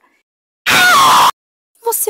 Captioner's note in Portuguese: Very loud screams